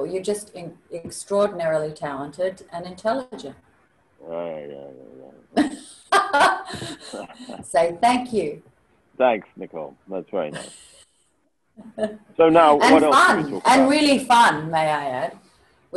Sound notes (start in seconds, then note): 4.3 Hugh muttering; 6.0 laughing; 10.7 chuckling